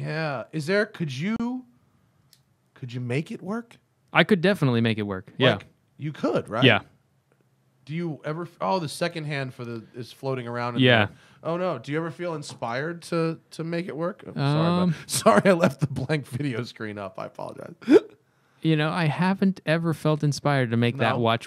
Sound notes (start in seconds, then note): 17.5 laughter